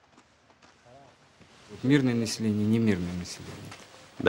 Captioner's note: soldier speaking Russian